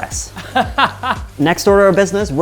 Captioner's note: laughing